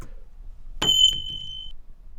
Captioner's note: bullet casing pinging